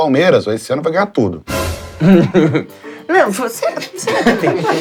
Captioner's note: risos